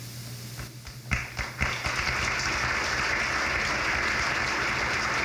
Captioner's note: crowd claps